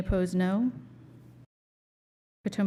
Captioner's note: silence